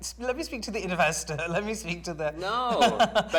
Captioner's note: laughs